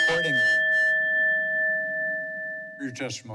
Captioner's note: bell rings